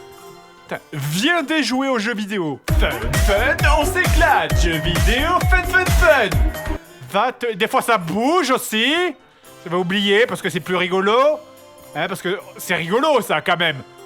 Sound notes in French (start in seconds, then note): 2.7 Voix-Off